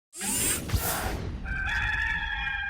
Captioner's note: drill sound effect; rooster crowing